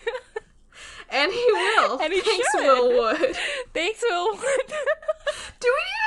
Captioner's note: laughing